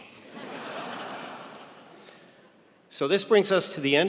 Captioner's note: audience laughing